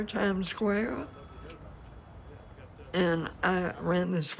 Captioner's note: phone rings